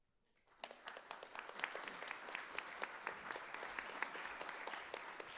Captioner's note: audience applauding